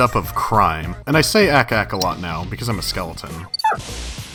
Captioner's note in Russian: клац-клац